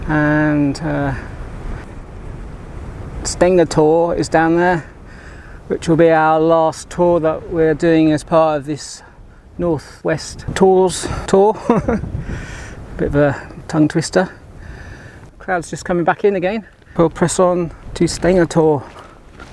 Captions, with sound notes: and Steng-a-tor is down there which will be our last Tor that we're doing as part of this North-West Tors Tour [laugh] bit of a tongue twister clouds are just coming back in again we'll press on to Steng-a-tor